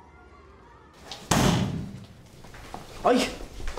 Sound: locker slams

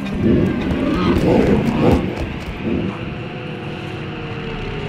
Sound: creature growling

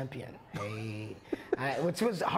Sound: laughs

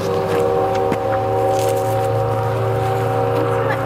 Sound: train horn sounds in the distance

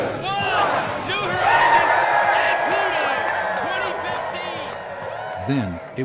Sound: crowd cheering

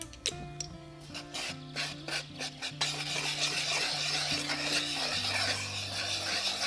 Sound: whisking

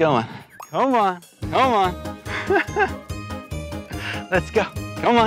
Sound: laughs

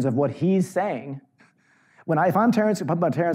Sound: none

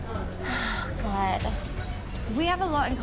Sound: sighing

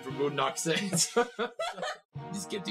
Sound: laughter

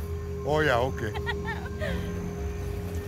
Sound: laughter

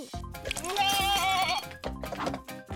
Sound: bleating

